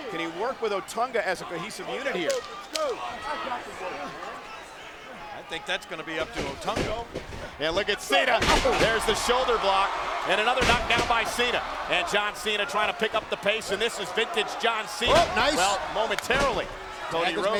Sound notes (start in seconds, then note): 2.2 hands clapping; 7.4 footsteps plodding; 8.3 body thudding; 11.3 crowd cheering; 14.9 feet thudding